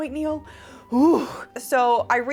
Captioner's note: sigh